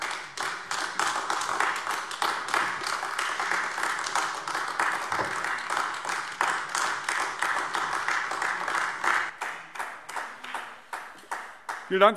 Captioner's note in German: Beifall AfD